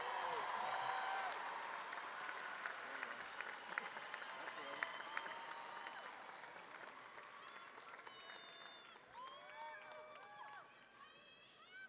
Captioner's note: cheers and applause